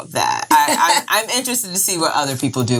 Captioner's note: laughing